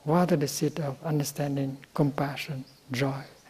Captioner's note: none